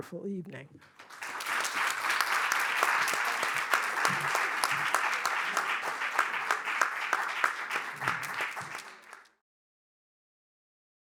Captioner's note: applause